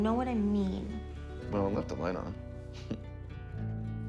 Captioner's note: chuckles